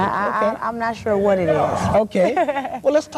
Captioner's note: laugh